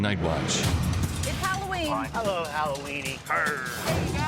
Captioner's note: growls